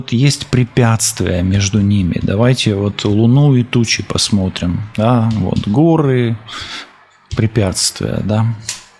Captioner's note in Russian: фыркает